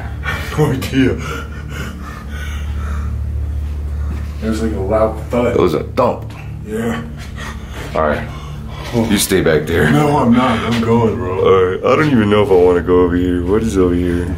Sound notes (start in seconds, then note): 0.9 nervous giggle; 6.3 breathing heavily